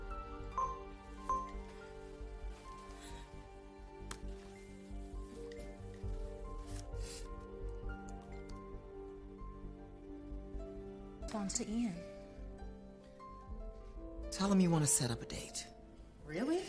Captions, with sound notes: [chiming continues] Tell him you want to set up a date. -Really?y? -Yes.